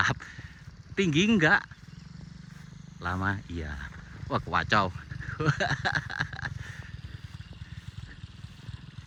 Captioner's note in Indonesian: tertawa